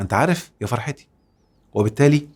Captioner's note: sarcasm!